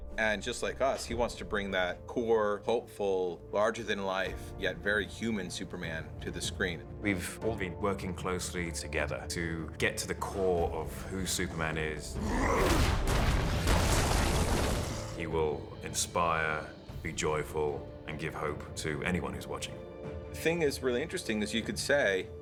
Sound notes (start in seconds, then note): 12.2 growling